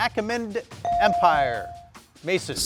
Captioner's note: buzzer dinging